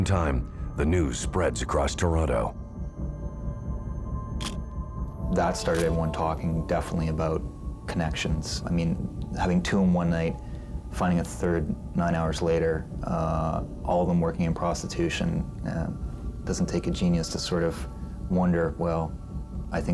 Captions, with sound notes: AT THE SAME TIME THE NEWS SPREADS ACROSS TORONTO. (camera shutter click) THAT STARTED EVERYONE TALKING DEFINITELY ABOUT CONNECTIONS. I MEAN HAVING TWO IN ONE NIGHT, FINDING A THIRD NINE HOURS LATER, ALL OF THEM WORKING IN PROSTITUTION, IT DOESN'T TAKE A GENIUS TO SORT OF WONDER